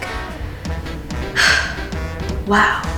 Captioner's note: sighs